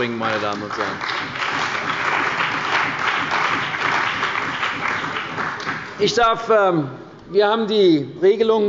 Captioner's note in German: Beifall bei der CDU und dem BÜNDNIS 90/DIE GRÜNEN